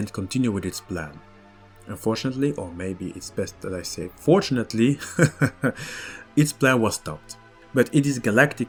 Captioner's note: laughs